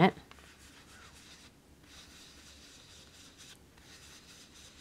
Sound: brush rubbing

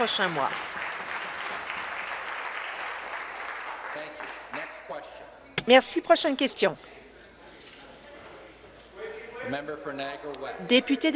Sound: some Applause

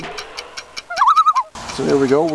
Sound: loon call

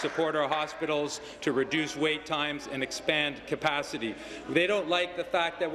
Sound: applause

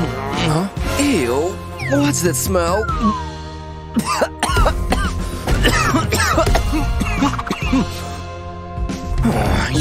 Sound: coughs; meows

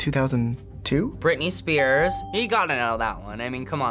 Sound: bell rings

